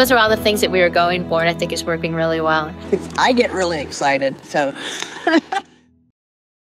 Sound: haha

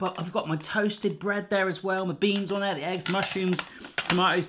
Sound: none

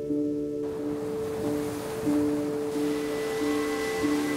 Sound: waves crashing

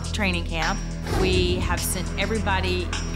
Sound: whoosh

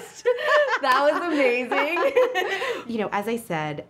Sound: both laugh

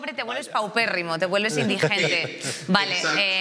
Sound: some laugh

